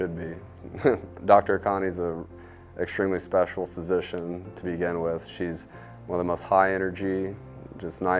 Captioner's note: laugh